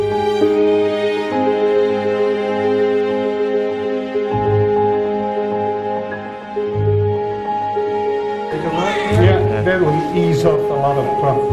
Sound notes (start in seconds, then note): 5.6 piano and violin music; 8.5 baby cries